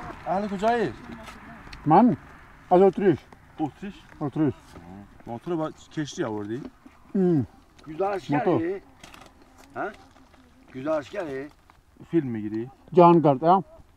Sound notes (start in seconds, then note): 5.1 speaking in Persia